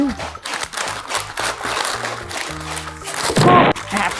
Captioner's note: parchment paper crinkling